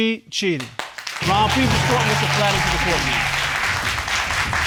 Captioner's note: audience applauding